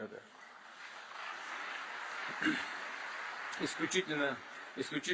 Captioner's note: applause